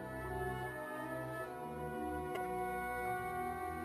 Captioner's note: none